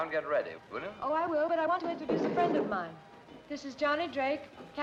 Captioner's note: chair creaks